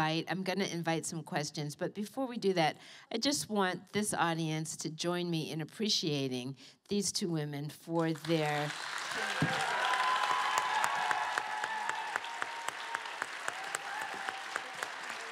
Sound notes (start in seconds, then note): 8.6 cheering